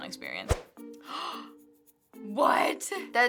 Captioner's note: gasping